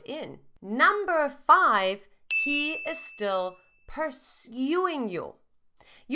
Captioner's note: bell chimes